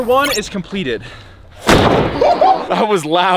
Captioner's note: wood crashing